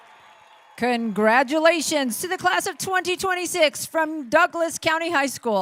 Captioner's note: cheering